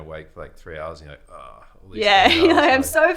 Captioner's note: groans